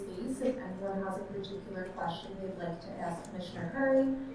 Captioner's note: none